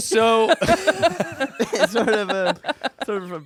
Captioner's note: everyone laughs